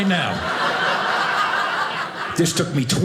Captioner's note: audience laughing